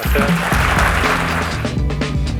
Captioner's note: applause